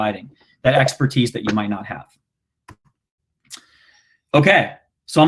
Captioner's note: clicking